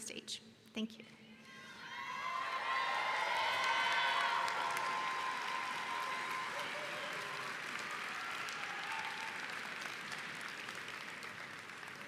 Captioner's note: applause